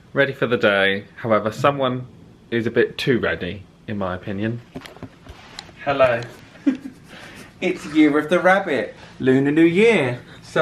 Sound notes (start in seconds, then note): 6.6 laughs